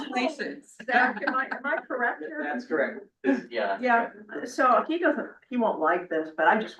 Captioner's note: laughs